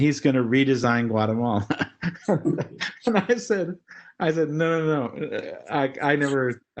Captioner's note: laugh